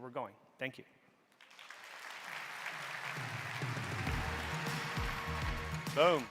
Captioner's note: techno upbeat music; audience applauding